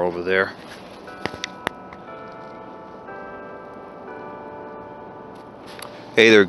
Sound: clocktower continues ringing

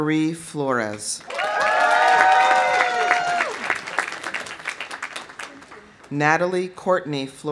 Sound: audience applauding; audience cheering

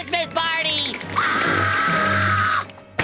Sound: screaming

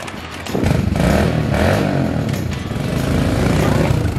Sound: engines revving

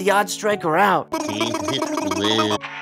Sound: silly sounds; phone ringing

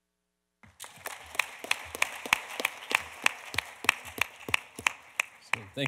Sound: audience applauding

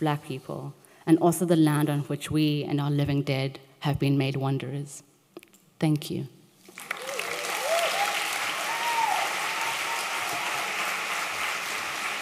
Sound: applause

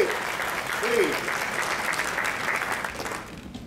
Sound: crowd clapping

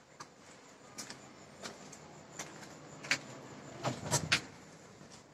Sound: sound of cicadas and traffic

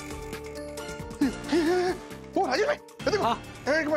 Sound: gasps

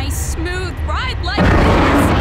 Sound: crash

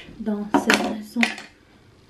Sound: placing pens on the table

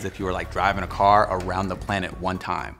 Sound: car revving

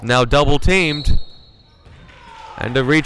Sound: whistle blowing

